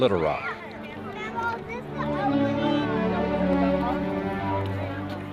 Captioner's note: children talking excitedly